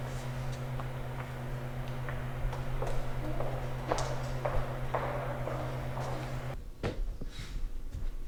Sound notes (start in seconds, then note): 4.3 receding footsteps